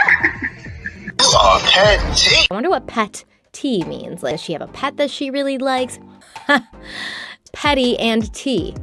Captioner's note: laughs